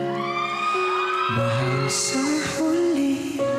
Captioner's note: audience cheering